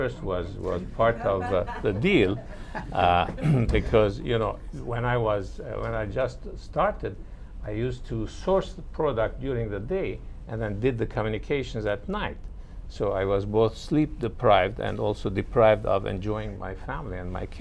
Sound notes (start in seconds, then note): 0.9 laughter